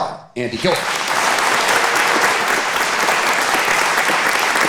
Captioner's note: audience applauding